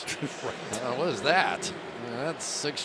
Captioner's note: chuckles